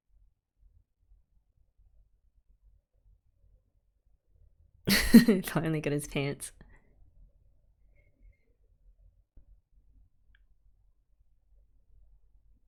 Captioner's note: laughs